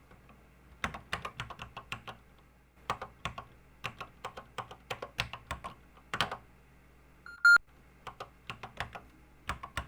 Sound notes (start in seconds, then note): 3.8 typing on a C64 keyboard